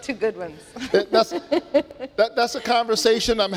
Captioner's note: laughing